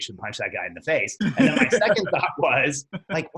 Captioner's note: laughs